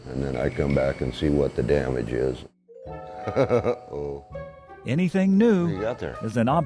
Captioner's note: laughs